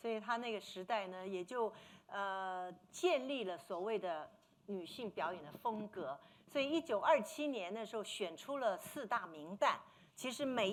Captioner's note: speaking Mandarin